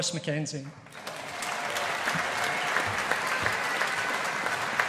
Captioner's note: audience applauding